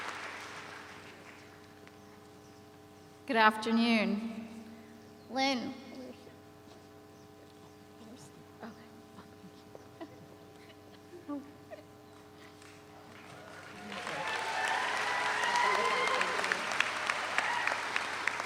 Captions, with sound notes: - Good afternoon. Lynn, where is she, okay. (laughs) (audience applauds)